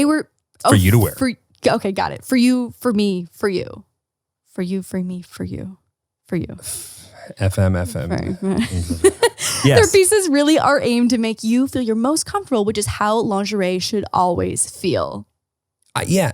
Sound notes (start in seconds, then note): 7.9 laughing